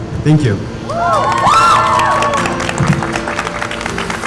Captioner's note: crowd Cheering